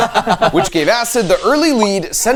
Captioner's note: friends laughing